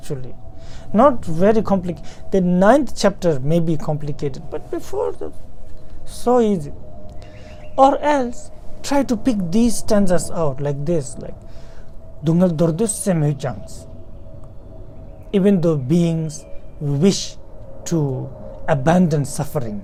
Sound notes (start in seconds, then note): 11.4 tibetan